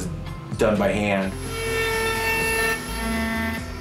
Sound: buzzing

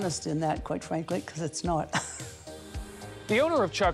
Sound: chuckles

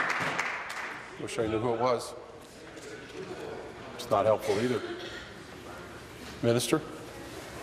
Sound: applause

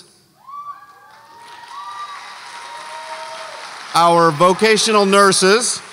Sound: audience cheers

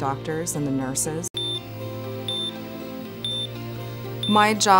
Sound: beeping

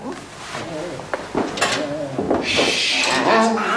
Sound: groans; groaning

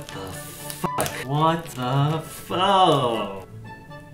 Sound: sound of disgust

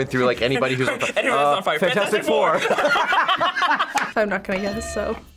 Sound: laughs

